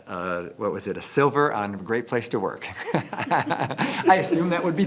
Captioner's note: laughs